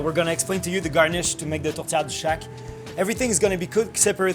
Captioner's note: speaking in French